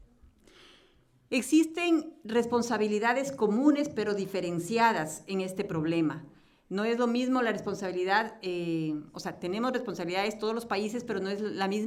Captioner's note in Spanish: Español